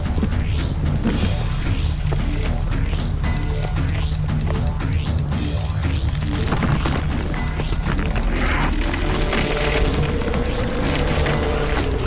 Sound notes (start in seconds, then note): 0.3 suspenseful synth music; 6.0 rocks clattering